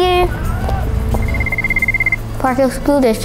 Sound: telephone ringing

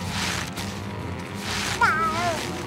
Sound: meowing

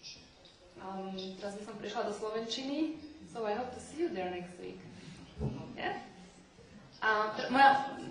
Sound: non-english

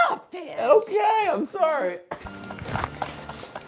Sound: laughing

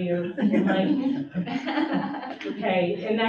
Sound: audience chuckles

